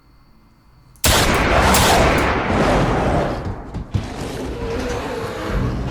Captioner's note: gun firing; Werewolf growling; suspenseful music